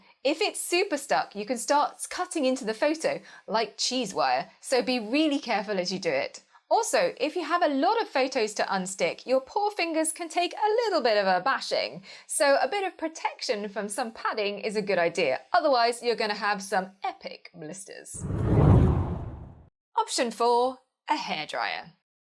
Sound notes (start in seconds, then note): 18.1 hard whooshing